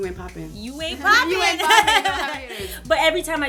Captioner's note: laughter